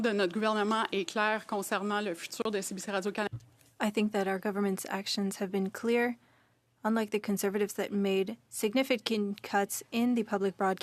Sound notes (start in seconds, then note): 2.8 speaking French